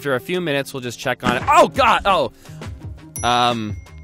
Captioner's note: loud pop; dings